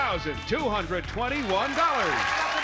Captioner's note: applause